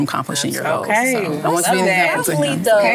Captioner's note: overlapping chatter